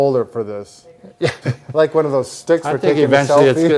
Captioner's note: chuckles